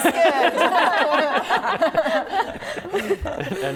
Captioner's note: laughing